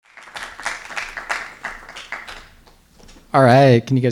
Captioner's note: applause